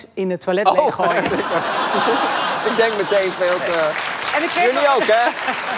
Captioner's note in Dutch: gelach en applaus